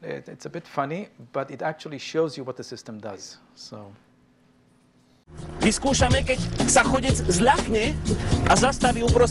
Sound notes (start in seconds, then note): 5.6 speaking polish